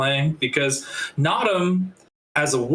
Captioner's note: none